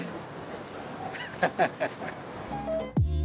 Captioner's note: laughs